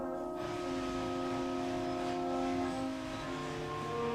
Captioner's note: static hissing